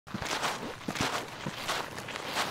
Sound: walking sounds

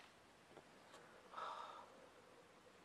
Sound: exhales

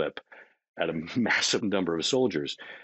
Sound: chuckling

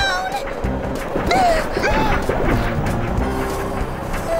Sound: panting; whimpering

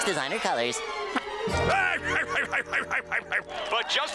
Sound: laughing

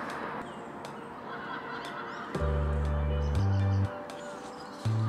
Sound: cackling sound

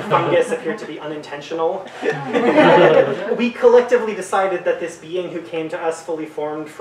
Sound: audience giggles

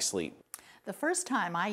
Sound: none

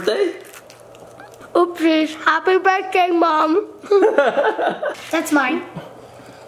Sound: laughs

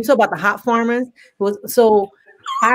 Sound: laughs

